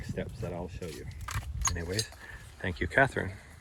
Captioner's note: crunch!